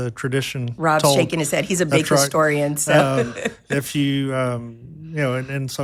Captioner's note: laughing